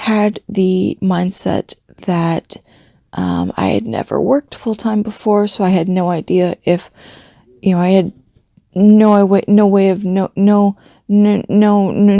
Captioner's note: deep breath